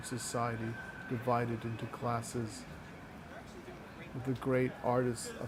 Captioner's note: people chattering